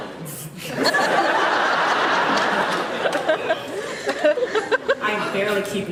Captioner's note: laughs